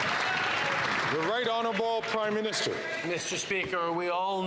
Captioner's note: some Applause